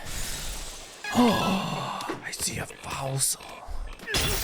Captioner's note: gasps